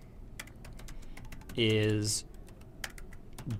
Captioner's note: typing Noises